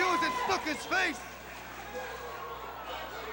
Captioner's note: crowd chatter